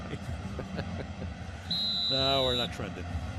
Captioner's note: chuckles